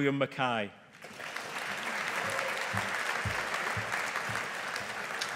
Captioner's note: audience applauding